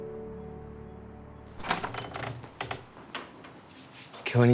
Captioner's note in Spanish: Ruido al abrir la puerta